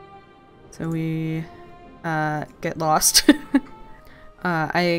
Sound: laughs

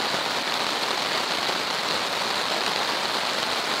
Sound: rain pouring

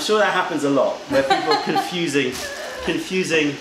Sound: laughter

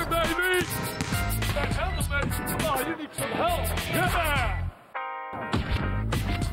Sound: sfx: court chatter

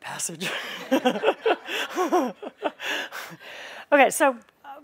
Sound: laughter

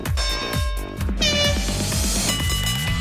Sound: horn blowing

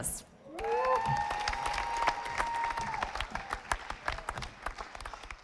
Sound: audience applauding

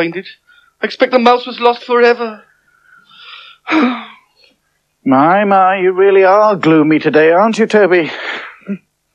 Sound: sighs

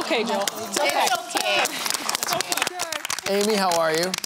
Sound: applause

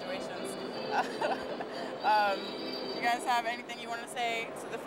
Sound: laughs

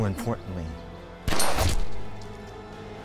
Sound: gunshot

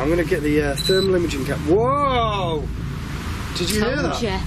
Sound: device beeps

